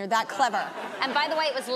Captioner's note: audience laughing